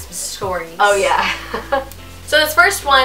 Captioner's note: chuckles